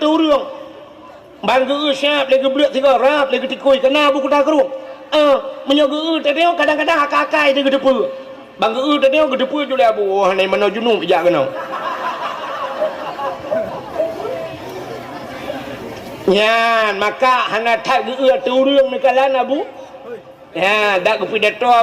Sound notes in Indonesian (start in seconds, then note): 11.5 tertawa